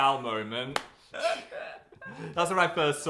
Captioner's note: people laughing